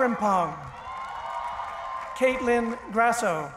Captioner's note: cheering